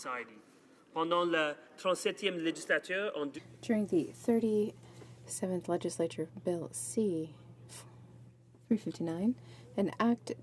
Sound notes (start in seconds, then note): 6.8 speaking in french